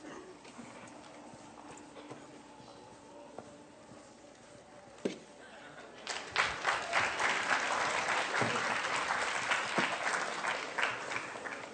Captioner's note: applause